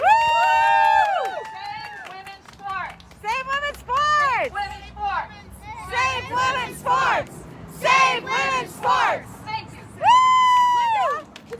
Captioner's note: cheering; chanting: Save women's sports! Save women's sports!; cheering